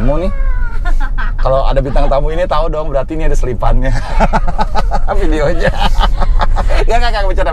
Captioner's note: laughing